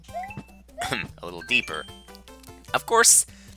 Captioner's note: clears throat